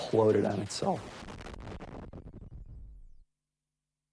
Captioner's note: video game explosion